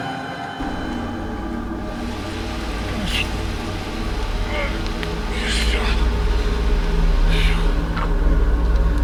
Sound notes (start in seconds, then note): 1.5 tense music; 2.8 Massai grunting